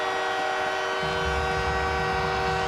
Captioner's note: cheering; horn; applause